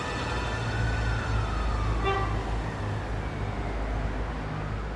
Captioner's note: sirens wailing